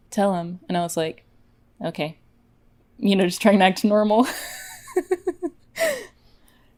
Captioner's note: laughs